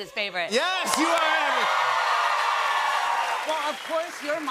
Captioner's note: cheers and applause